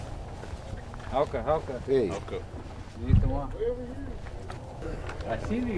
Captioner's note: speaking in native language